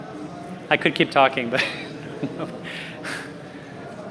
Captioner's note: laughs